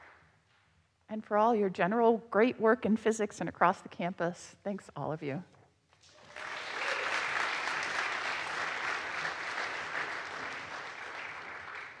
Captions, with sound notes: And for all your general great work in physics and across the campus, thanks all of you. (audience applauds)